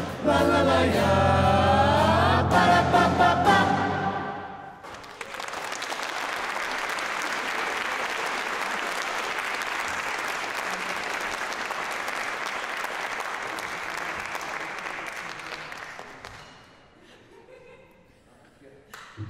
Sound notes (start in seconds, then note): 4.8 applause